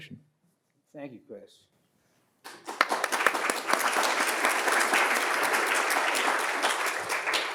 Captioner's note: audience applauds